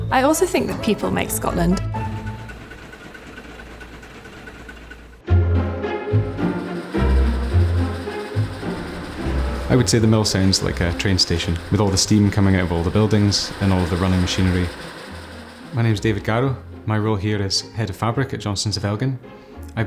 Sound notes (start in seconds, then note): 2.5 machine whirring; 6.1 upbeat music; 8.4 mill clattering